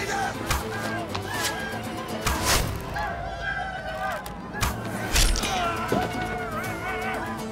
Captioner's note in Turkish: Ok sesleri